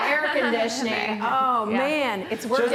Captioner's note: laughing